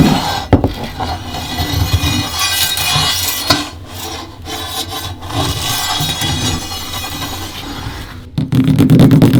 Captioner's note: sound of scratching by sword; scratching by metal